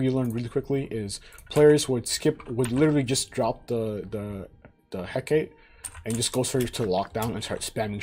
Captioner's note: stutters